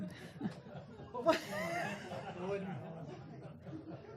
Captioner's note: laughter